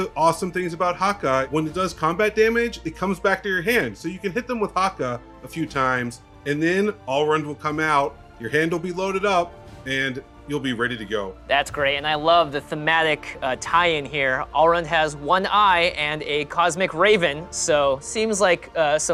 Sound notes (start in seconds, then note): none